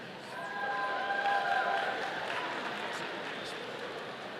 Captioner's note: audience applauding